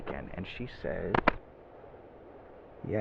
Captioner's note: drumrolls on pants